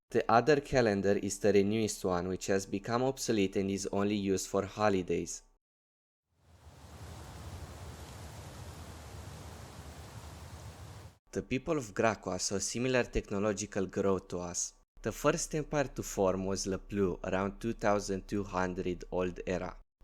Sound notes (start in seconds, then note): 6.4 wind